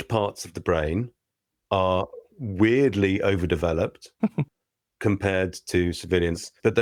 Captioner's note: laughter